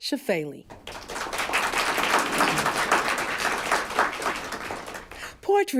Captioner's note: applause